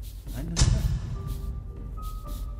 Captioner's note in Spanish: Susurra